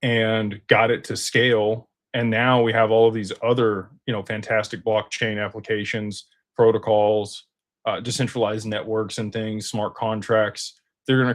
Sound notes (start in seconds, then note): none